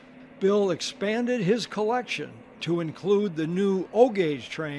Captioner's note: voiceover